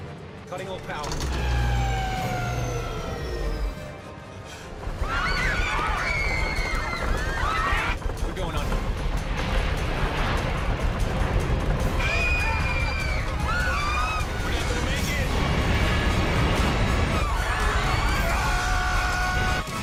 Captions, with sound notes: CUTTING ALL POWER. [ENGINES POWER DOWN] [SCREAMING] WE'RE GOING UNDER. [SCREAMING] WE'RE NOT GONNA MAKE IT. AAH!